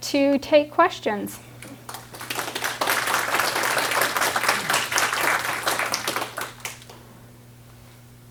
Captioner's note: applause